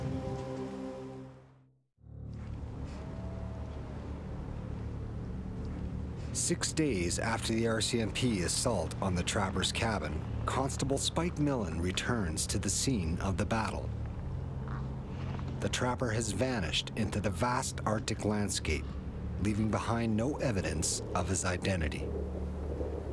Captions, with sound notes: (suspenseful music) (wolf howling) Six days after the RCMP assault on the trapper's cabin, Constable Spike Millen returns to the scene of the battle. The trapper has vanished into the vast Arctic landscape leaving behind no evidence of his identity.